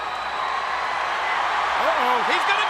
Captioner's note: audience cheers